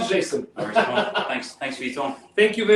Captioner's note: laughs